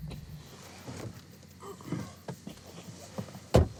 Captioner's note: groans softly; door slamming